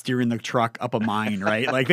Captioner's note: laughs